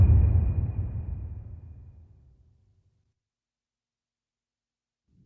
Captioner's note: dramatic sound